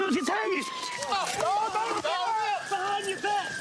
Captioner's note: yells